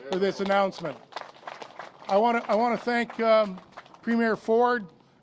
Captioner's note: applause